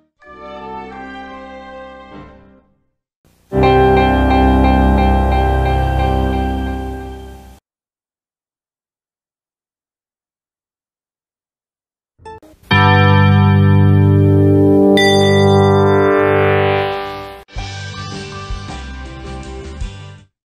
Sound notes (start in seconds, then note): 0.1 broadway-style music plays; 3.5 piano and string music plays; 8.5 silence; 12.8 analog synthesizer music plays; 17.5 soul music plays